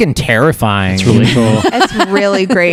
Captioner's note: laughs